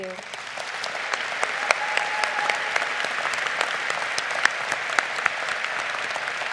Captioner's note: crowd applauding